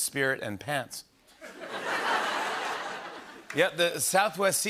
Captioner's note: laughter